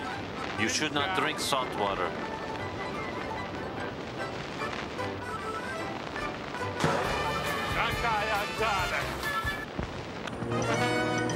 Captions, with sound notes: YOU SHOULD NOT DRINK SALT WATER. [ BOING ] [ SPEAKING FOREIGN LANGUAGE ]